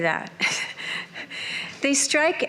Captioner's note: chuckles